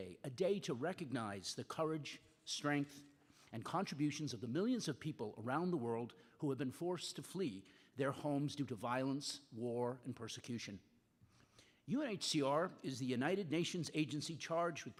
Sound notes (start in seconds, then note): none